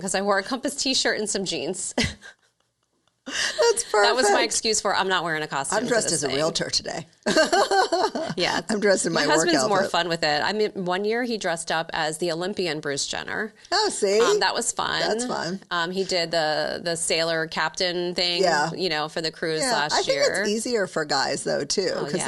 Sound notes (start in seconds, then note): 2.0 chuckling; 7.2 laughing